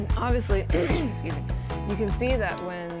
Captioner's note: clears throat